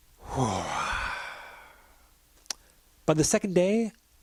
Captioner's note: sighs